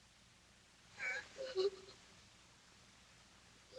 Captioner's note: sobbing